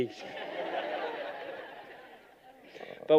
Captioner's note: laughter